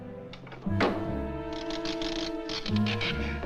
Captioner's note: nails Continue Squeaking